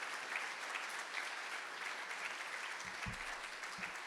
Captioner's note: audience applauding